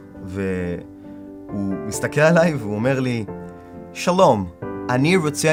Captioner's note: in Hebrew